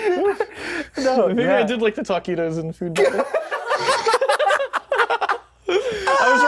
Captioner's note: laughter; laughter